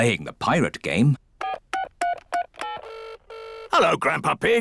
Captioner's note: line ringing; dialing phone